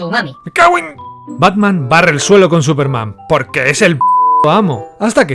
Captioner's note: beep